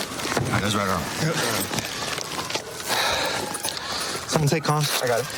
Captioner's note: sirens blaring